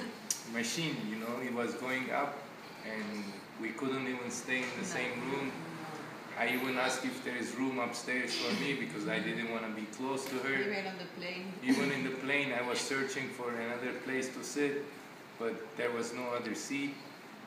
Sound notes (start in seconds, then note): 11.6 chuckles